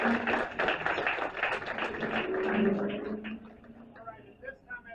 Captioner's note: applause; car engine